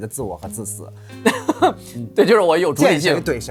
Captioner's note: laughs